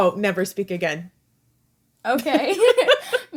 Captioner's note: laughter